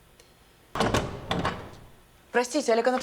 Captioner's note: door clicks open